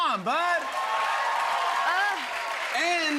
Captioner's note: cheers and applause